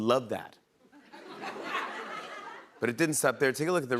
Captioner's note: laughter